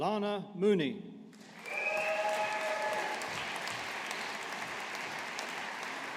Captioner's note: audience applauding